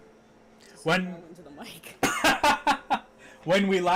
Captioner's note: laughing